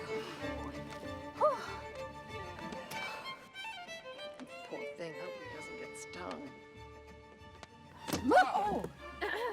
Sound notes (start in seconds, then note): 0.0 exhales